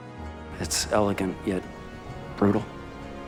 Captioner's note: voiceover